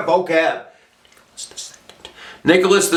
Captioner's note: whispering